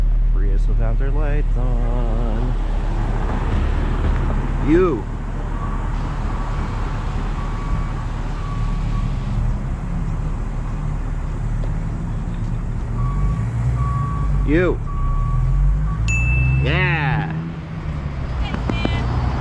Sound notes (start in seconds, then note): 16.0 ding